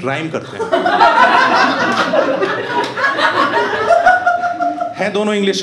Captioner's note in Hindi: हँसना